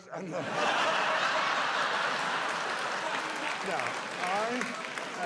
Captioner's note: audience laughs